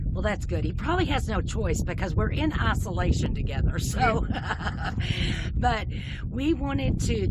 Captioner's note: laughing